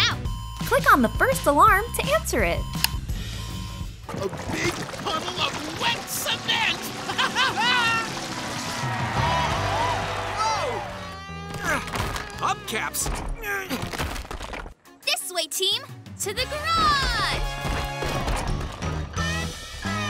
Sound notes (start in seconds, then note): 6.8 laughing; 8.6 cheering